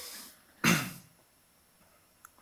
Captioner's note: clears throat